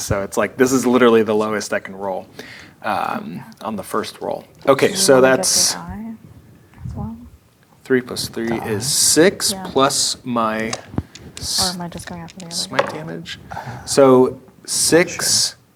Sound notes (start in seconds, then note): 5.4 quietly; 8.9 quietly